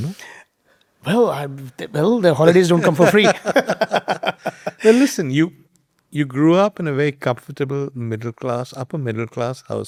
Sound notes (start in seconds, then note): 2.8 both laughing